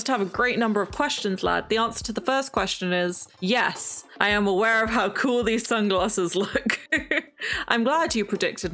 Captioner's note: laughs